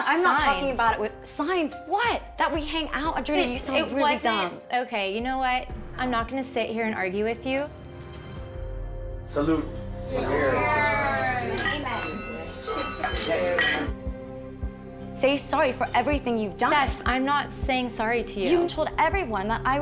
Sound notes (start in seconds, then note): 11.4 glasses clinking